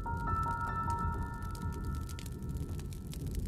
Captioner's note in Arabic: فرقعات النار